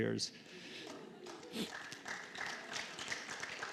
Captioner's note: clapping